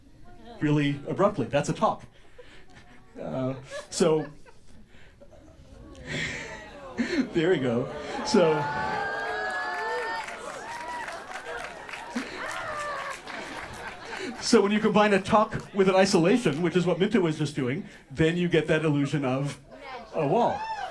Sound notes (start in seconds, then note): 6.0 laughs; 7.8 audience expresses astonishment; 20.7 audience whoops and applauds